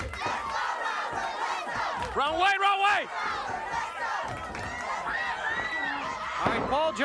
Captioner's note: applause